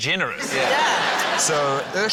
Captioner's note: laughter